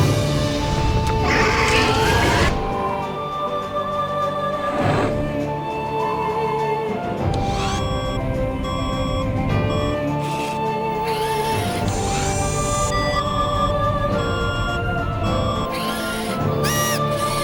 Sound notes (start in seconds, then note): 0.8 low whooshing; 1.0 raptor roars; 3.2 dramatic music; 4.4 raptor growls; 7.3 alarm tones; 7.7 lens focuses and whirs; 13.2 alarm tones; 15.7 robot whirs